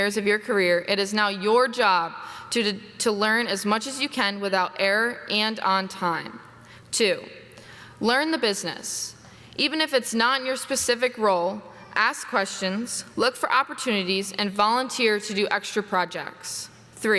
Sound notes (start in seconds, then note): none